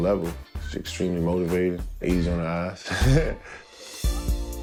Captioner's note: chuckles